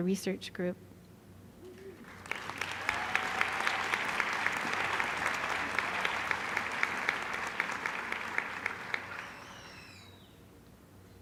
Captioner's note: applause